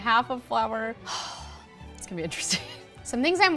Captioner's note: sighs